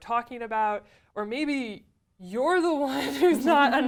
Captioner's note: laugh